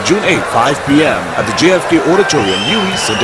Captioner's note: wild applause and cheering for 22 seconds